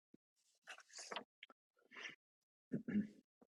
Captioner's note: pages turning